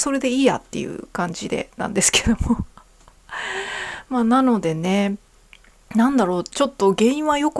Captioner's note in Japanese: 息をのむ音